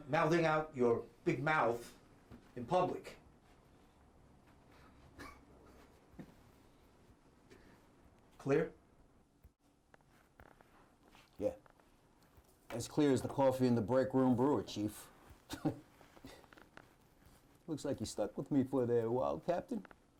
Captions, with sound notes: mouthing out your big mouth in public. Clear? - Yeah, as clear as the coffee in the break room brewer, Chief. (Lt. Argento scoffs) Looks like you're stuck with me for a while, Captain.